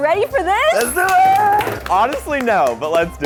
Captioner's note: clapping